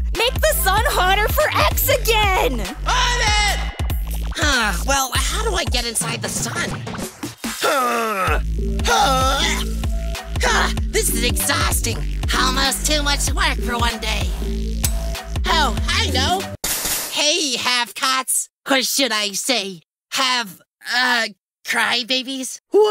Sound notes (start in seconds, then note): 2.8 yelling; 8.8 grunting; 14.8 lightbulb sound